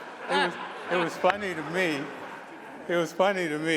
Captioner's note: laughter